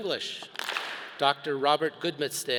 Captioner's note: all clap